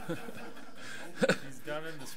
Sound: audience laughs

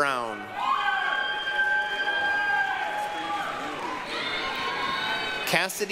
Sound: applause, cheering

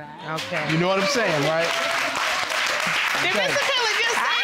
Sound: audience applauding

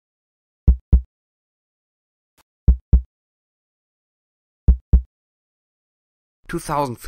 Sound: heartbeat

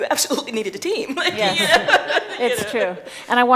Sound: laughing

